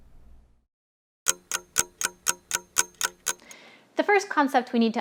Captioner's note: clock ticking